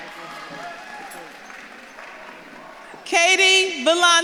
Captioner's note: audience claps and cheers